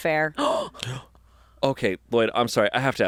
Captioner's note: gasps